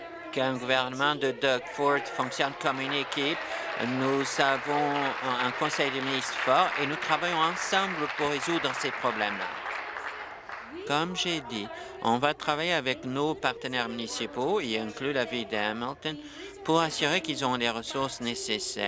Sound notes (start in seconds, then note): 5.4 applause